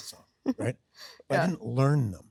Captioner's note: Sydney laughs